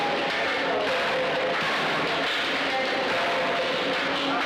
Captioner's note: metal clanking